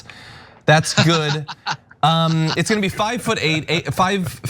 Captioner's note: laugh